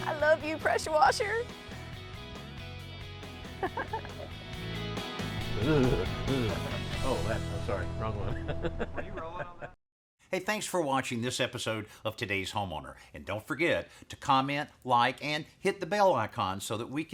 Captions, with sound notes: I love you, pressure washer! (LAUGHS) (SHIVERING) Oh, that. I'm sorry, wrong one. (LAUGHS)